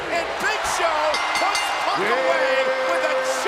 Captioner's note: bell rings